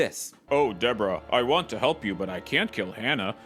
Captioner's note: low voice